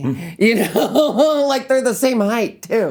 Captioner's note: laughing